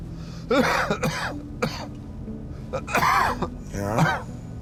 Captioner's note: Tommy coughs